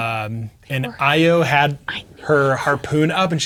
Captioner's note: players whispering